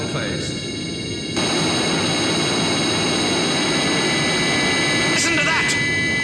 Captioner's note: drill whining increases